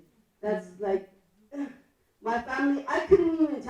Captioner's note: laughs